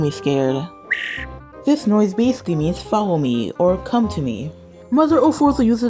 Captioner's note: chirrrp!